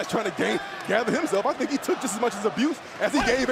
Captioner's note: crowd cheering